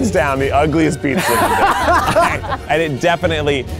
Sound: all laugh

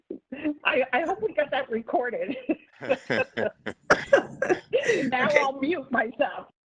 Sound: laughter; laughter

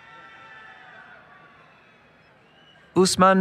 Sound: cheering

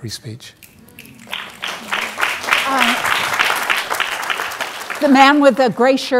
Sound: audience applauding

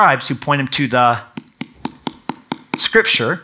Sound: tapping book

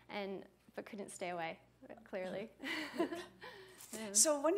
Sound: laughter

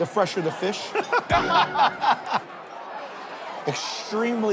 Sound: laughter

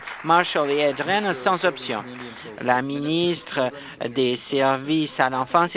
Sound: applause

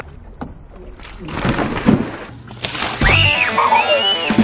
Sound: water splashing; yelling

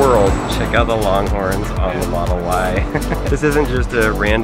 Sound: laughs

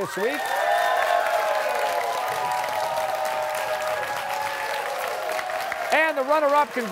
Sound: cheers and applause

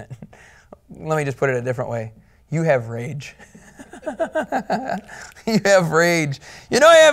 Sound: laughing

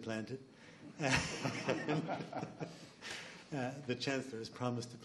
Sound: laughs

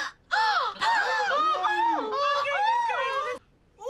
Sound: BRITTA mock gasps; ANNIE gasps; ABED makes more of an ‘Ahh’ noise instead of a gasp; group mock gasps

